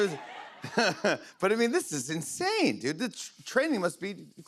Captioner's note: laughs; normal voice